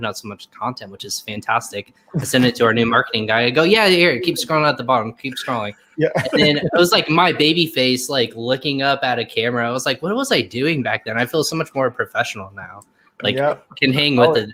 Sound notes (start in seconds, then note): 5.9 chuckles